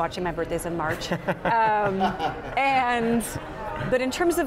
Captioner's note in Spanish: se ríe